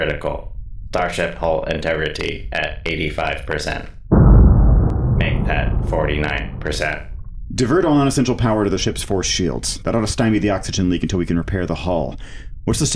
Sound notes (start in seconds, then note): 4.1 distant explosion